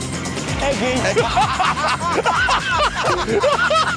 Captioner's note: they laugh